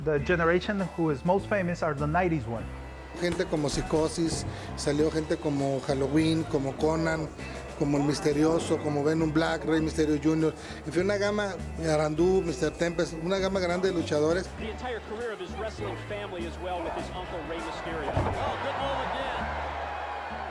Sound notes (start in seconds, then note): 3.2 Rey Misterio speaking Spanish